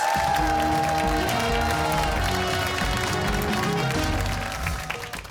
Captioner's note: cheers and applause